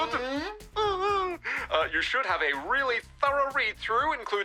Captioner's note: giggles